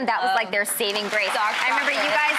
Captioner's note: clapping